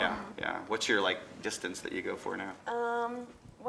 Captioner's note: none